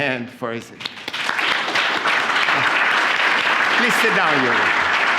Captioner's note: applause